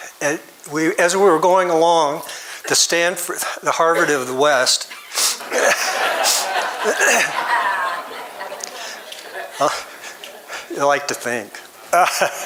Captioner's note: audience laughs